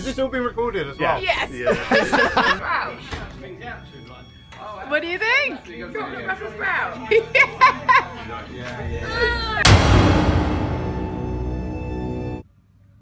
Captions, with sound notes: Is this all being recorded as well? Yeah! (Laughter) What do you think? Chocolate brussel sprouts? Yeah! Urrrggghh...